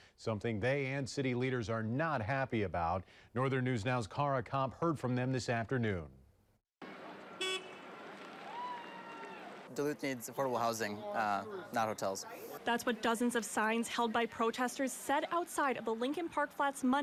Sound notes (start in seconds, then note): 6.8 nats of protest